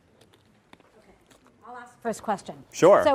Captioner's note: voiceover